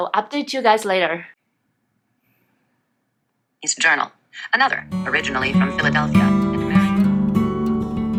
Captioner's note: audio book playing